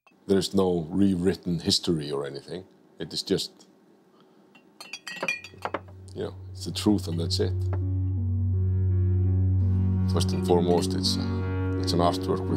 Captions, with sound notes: There's no rewritten history or anything. It is just... (glass clinking) (glass clattering) You know, it's the truth, and that's it. First and foremost, it's an artwork